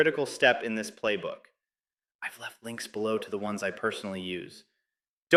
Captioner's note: whispers